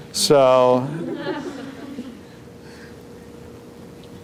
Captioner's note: laughter